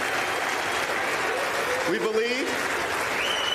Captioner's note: applause